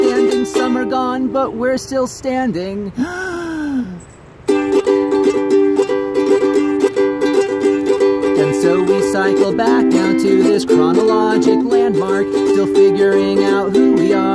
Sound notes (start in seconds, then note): 3.0 deep breath